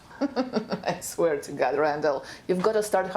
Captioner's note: laughs